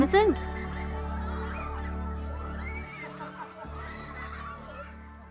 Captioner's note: children laughing